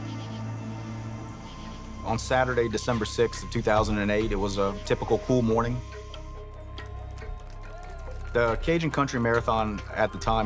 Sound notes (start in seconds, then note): 6.9 people cheering